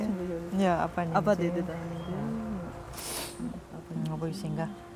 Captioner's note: speaks foreign language